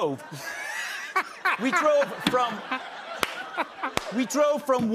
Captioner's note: laughter